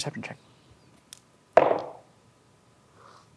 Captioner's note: dice rolling